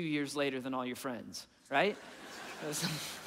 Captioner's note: audience laughing; laughing